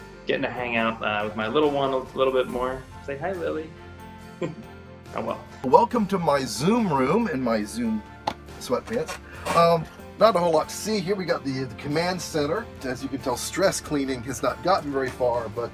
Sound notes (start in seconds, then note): 4.4 laughing